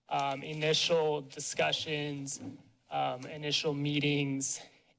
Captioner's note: none